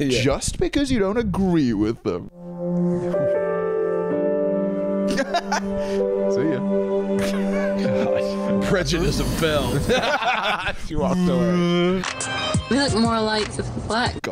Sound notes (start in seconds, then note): 2.3 swelling music; 5.0 chuckling; 9.8 laughter